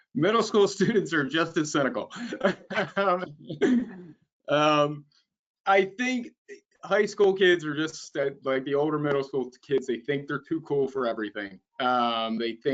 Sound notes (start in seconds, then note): 2.0 both laughing